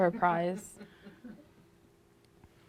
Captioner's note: laughter